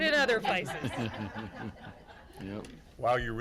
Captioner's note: everyone laughing